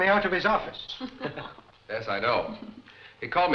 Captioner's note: all laughing